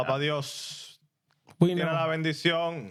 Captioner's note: speaking In Foreign Language